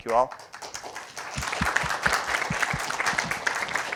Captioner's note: applause